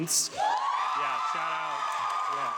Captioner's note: audience applauding